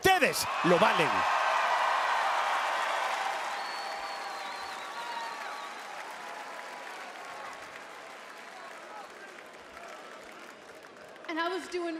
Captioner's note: applause